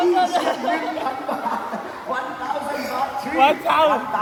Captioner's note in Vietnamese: tiếng cười